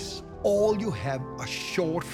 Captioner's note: none